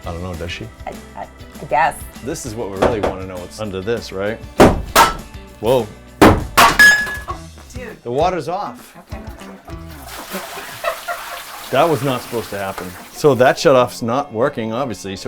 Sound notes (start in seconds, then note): 1.2 stammering; 4.5 crashing sounds; 9.7 splashing sounds